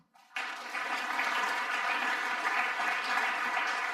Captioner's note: audience applauding